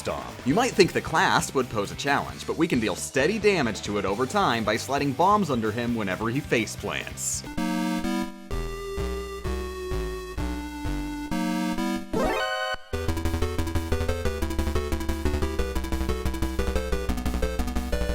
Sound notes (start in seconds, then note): 12.1 shocked sound effect!; 13.7 dramatic music